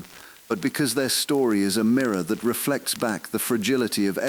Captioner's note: exhale